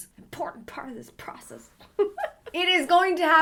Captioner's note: giggles